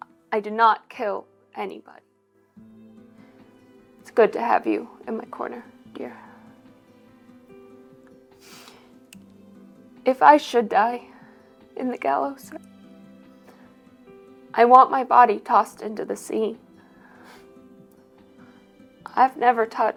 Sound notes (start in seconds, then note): none